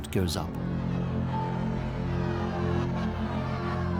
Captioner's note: crowd jeering